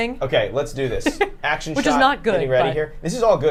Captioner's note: chuckles